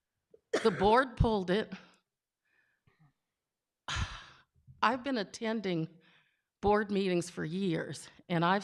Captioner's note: sighs